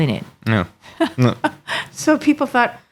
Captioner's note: laughing